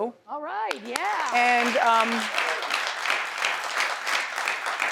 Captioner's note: audience applauds